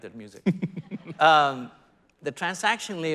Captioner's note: laughing